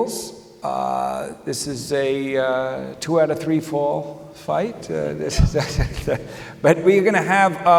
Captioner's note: chuckles